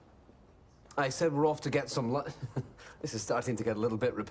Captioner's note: laughter